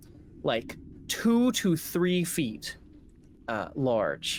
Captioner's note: none